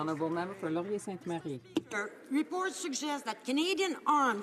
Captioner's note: some Applause